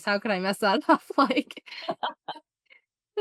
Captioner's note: laughter